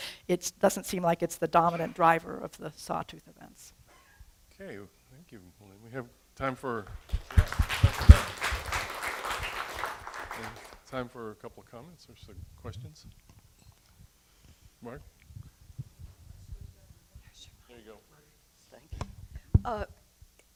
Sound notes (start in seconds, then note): 7.0 applause